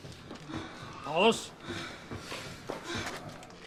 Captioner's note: heavy breathing